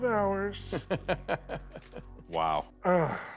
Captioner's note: laughter